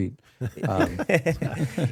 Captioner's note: laughing